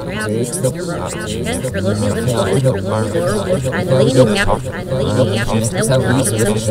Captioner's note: chatter